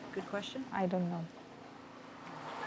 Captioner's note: speaking spanish